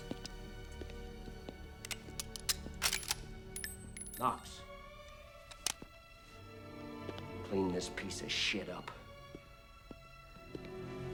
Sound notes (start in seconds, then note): 1.8 gun clicks; 1.8 shell clinking